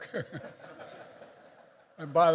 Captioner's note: laughter